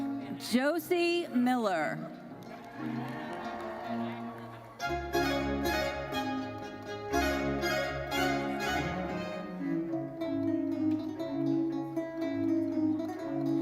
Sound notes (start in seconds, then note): 2.6 audience cheers